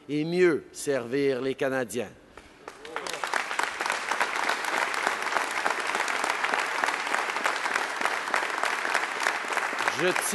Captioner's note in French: Applaudissements